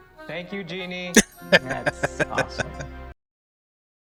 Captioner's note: laughing